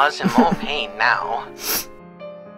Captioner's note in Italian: sniff